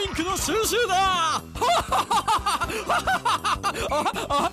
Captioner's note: cackling maniacally